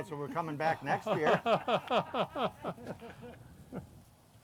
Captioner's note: laughs